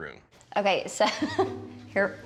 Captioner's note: laughs